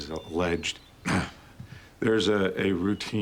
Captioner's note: clears throat